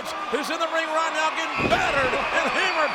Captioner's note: body thudding